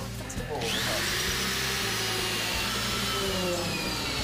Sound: drilling

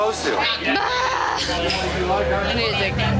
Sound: groans

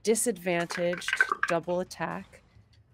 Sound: dice clatter

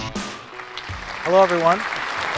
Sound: applause

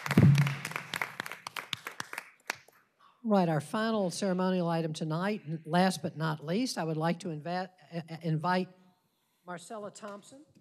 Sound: applause

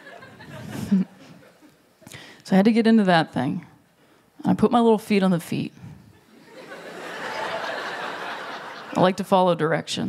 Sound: laughter

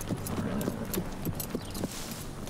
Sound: horse snorts

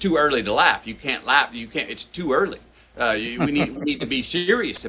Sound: Sadhguru laughs

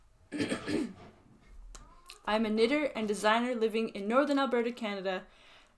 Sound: clears throat

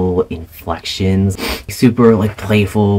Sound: sniff

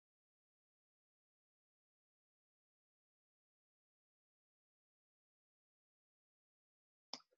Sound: audio cuts out

